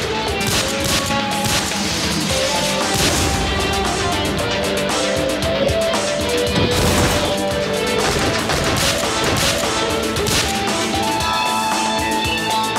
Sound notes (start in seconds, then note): 2.9 explode; 7.9 gun shots